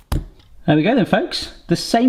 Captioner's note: dough thuds